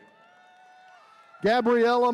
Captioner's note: attendees cheering